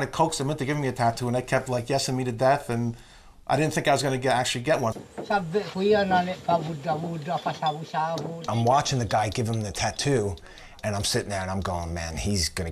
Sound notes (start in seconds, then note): 5.7 speaking mentawai